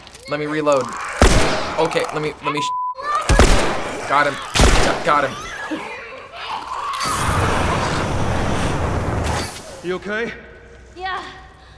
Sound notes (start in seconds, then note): 1.2 gun shot; 3.3 gun shot; 6.3 Clicker yelps in pain; 7.0 flames whoosh